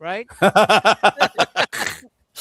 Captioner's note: hearty laughter